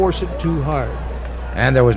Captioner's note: audience clapping